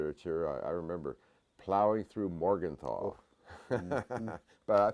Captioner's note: laugh